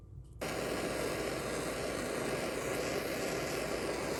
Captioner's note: blow torch whistling